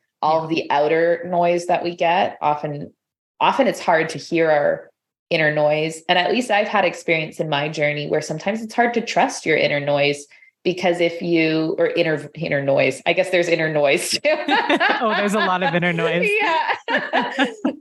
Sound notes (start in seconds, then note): 14.0 laughter